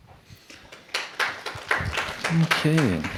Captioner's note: applause